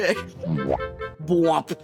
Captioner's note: bo-womp